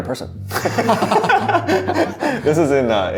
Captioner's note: laughing